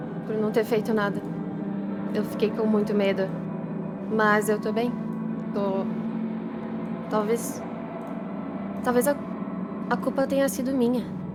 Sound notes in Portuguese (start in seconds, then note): none